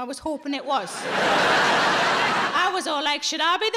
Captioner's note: audience laughing